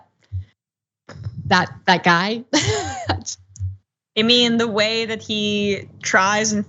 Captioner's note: laugh